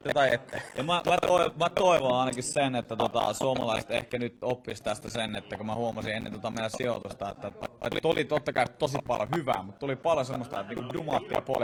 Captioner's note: feedback